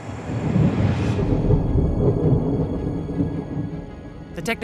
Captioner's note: thunder rumbling